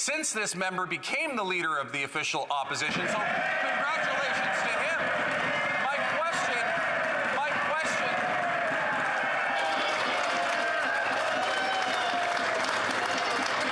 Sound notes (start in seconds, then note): 8.9 cheers & Applause